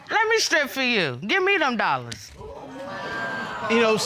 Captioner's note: audience exclaims